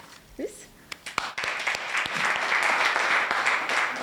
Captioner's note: applause